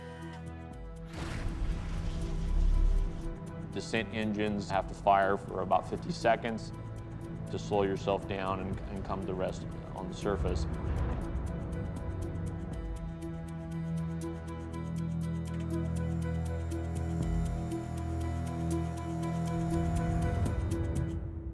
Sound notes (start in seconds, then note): 0.1 servos operating; 1.1 engines firing; 11.2 suspenseful music; 15.9 servos operating